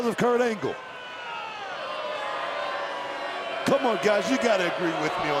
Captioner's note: applause